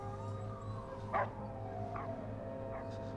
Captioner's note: police sirens wail